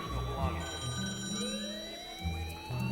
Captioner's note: phone ringing